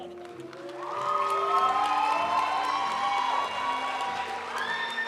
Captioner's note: audience cheering and applauding; graduation music